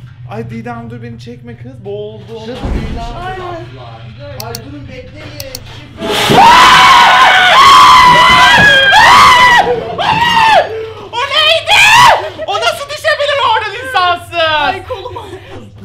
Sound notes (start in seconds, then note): 6.2 screams